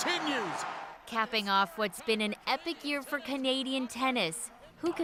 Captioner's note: cheers and Applause